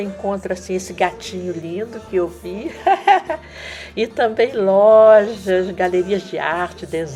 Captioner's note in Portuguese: risos